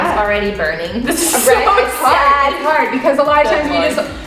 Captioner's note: giggles